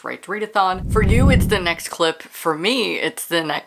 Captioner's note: whoosh